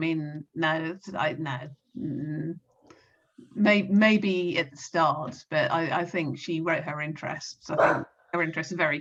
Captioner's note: dog barks